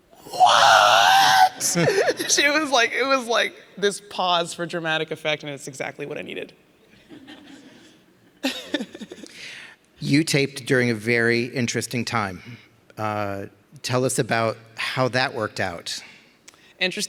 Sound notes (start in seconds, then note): 7.1 laughs; 7.2 audience laughing